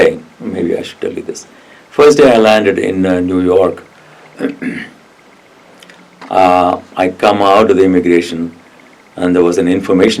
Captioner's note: coughs